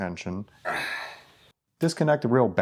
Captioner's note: grunts